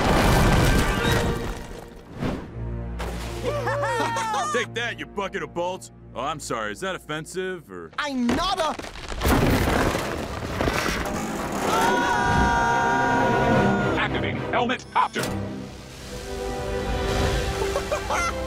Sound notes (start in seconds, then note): 3.4 all laughing; 8.0 rocks crumbling; 11.6 all screaming; 17.6 laughs